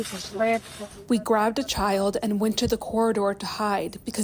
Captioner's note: through translator